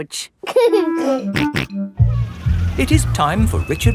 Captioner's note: giggling and snorting